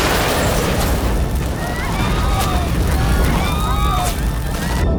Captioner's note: people screaming